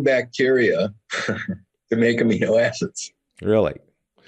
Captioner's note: laughs